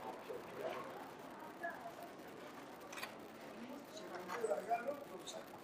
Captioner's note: visitors chattering indistinctly